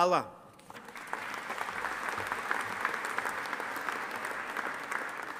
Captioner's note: audience applauding